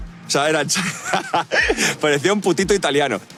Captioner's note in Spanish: Risas